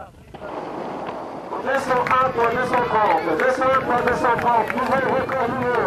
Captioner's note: applause